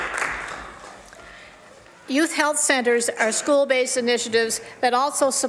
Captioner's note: some Applause